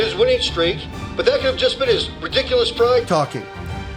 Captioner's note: radio